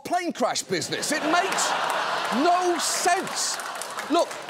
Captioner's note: laughter